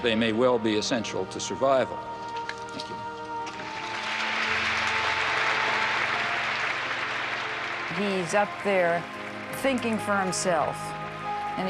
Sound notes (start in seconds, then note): 3.4 audience applauding; 3.8 gentle music